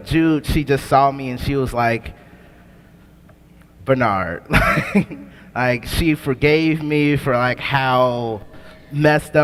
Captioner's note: laughs